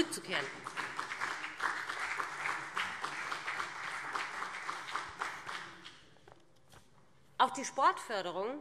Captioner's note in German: Beifall BÜNDNIS 90/DIE GRÜNEN und CDU